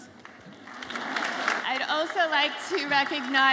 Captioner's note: audience applauds